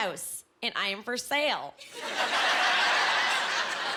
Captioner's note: laughing